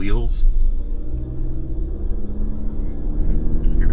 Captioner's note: engine rumbling